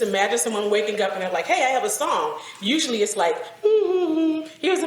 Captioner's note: hums